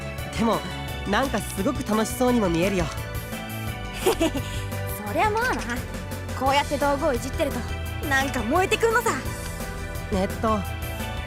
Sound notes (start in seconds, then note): 4.0 sheepish laugh